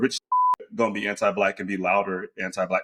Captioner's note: beep